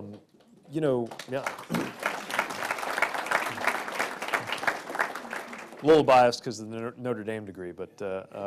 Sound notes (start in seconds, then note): 0.9 applause